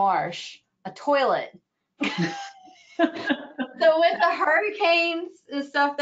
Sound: laughing

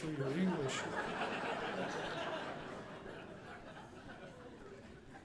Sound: audience laughing

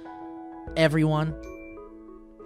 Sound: punctuated ding

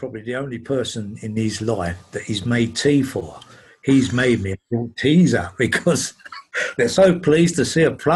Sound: laughs

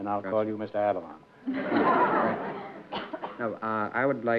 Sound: laughter

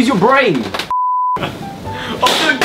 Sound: beep; laughs

